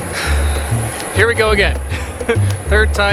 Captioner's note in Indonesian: tertawa